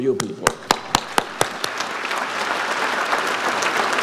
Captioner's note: audience applauds